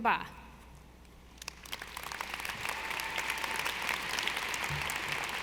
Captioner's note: audience applauding